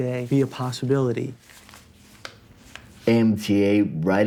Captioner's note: Folheando jornal